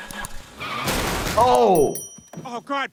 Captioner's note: cars crashing